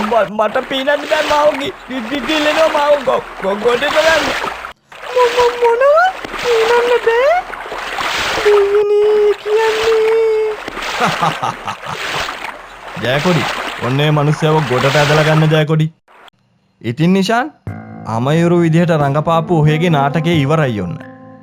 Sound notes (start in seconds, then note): 10.8 laughing